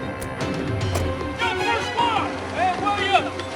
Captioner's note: indistinct shouting